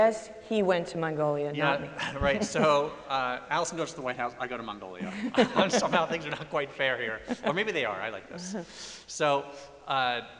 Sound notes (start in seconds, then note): 5.0 laughter